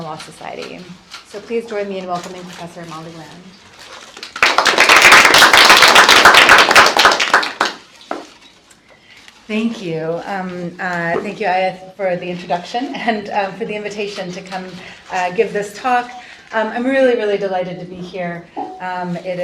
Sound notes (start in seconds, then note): 4.2 applause